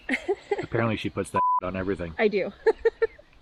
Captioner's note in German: Piepton